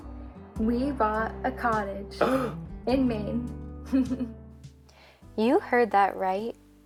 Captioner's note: gasp